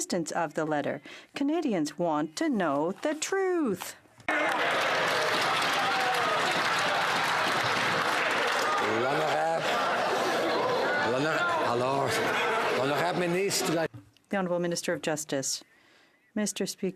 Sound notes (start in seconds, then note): 7.6 some Applause